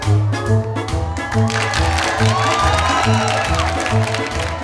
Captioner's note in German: Erneut Beifall